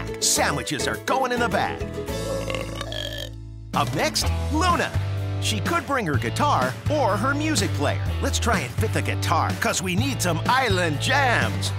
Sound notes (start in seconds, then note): 2.1 burping